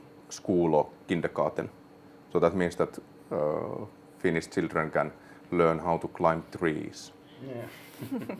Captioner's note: all chuckle